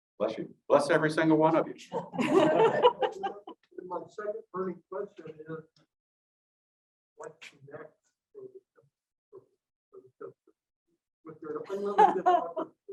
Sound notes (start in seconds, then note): 2.0 audience giggling lightly